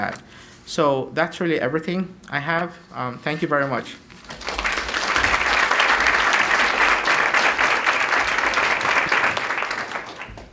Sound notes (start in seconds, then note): 8.0 clapping